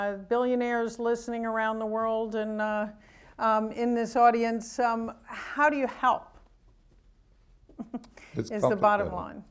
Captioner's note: chuckles